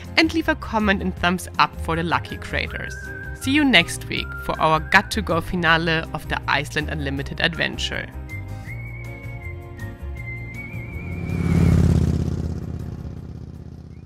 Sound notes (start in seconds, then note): 8.3 lively music; 8.3 bike roaring